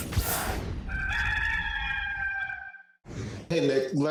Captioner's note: cock crows